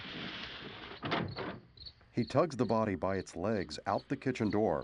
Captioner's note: crickets chirping